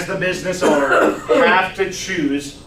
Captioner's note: coughs